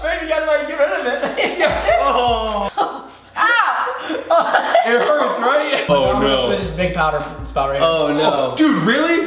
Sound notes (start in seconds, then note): 1.2 laughter